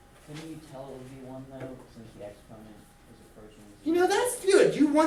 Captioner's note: student speaks softly